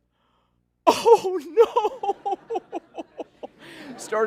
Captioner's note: laughter